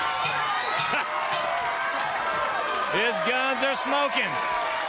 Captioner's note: crowd cheering; bell ringing